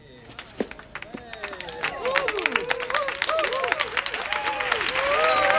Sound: audience cheering and applauding

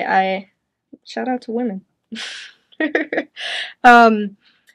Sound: chuckles

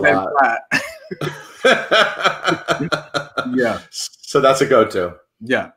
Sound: both chuckling

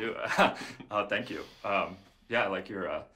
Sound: laughs

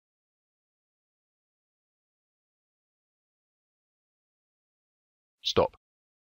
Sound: silence

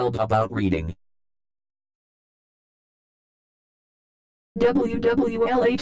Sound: silence

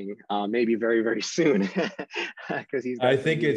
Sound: laughs

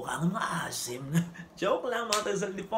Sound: laughs

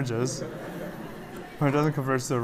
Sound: laughter

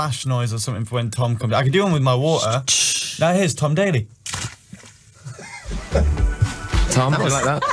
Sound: shakes bottle

